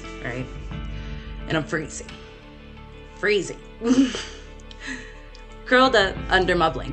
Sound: laughs

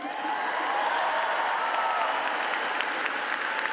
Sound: audience cheering

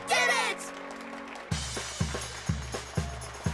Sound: crowd claps

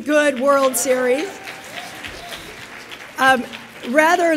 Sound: audience applauds

